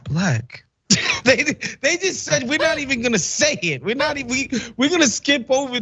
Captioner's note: laugh